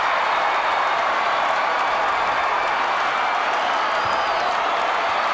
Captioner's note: crowd continues cheering